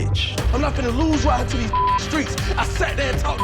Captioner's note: beeping